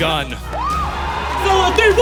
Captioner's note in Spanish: Aplausos